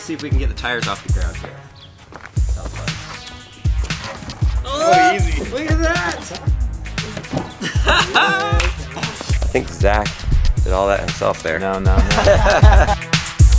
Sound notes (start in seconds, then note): 4.4 exclaims; 7.0 laughs; 11.8 laugh; 13.3 electronic music